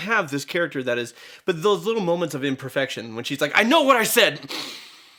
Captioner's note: deep inhale